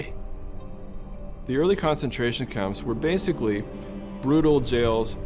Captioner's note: 2nd male voice